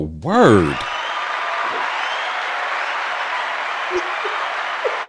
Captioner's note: audience cheering